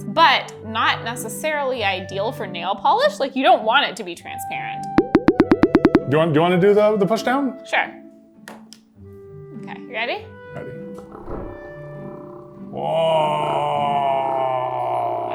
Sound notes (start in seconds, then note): 4.8 water dropping; 11.0 nail polish vibrating